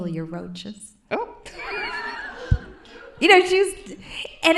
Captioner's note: laughs